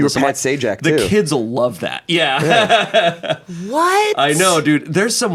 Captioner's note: laughs